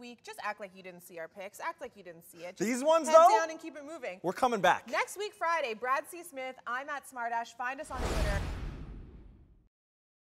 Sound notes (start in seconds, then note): 7.9 logo whoosh